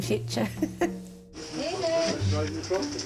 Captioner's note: laughing